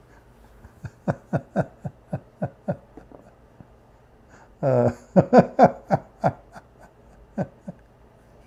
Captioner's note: Ketawa